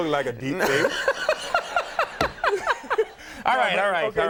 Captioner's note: Conan laughing